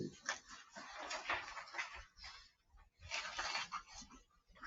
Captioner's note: papers rustling